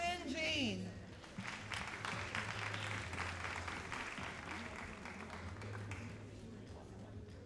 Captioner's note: all applauding